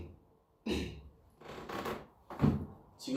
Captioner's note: clears throat